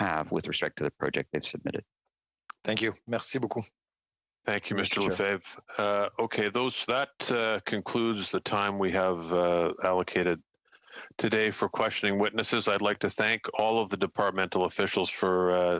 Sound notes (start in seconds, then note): 6.6 speaking French